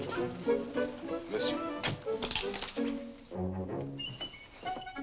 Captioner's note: Crunch